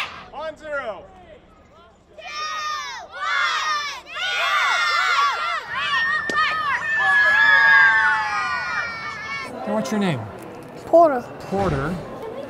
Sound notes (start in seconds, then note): 4.7 all screaming; 6.2 tennis ball thuds; 6.6 all screaming